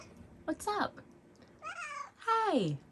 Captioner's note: meows